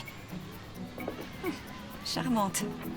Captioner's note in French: glousse maladroitement